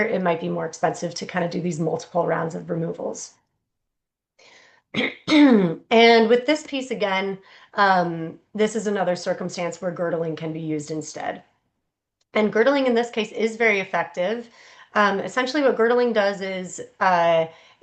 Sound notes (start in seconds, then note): 5.0 clears throat